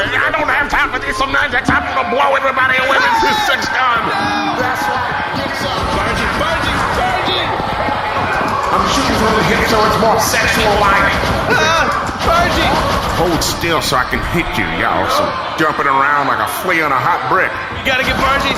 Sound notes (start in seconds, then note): 4.7 terrified; 8.7 shouting into the microphone; 10.2 sex gun firing off constantly